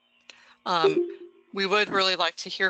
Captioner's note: beeps